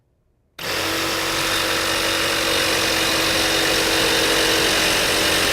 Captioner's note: cutting metal with jigsaw